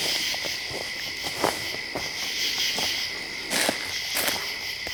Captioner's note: leaves crunching